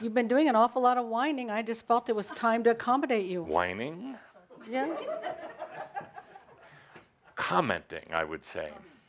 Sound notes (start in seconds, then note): 4.6 laughter